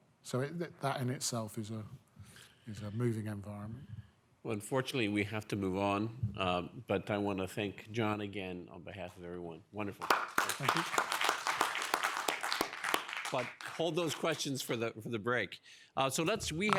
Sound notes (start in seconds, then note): 10.0 audience applauding